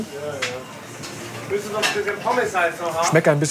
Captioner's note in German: Stimmengewirr im Hintergrund